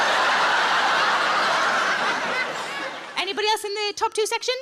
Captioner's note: audience laughs